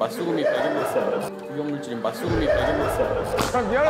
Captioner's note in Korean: 웃음소리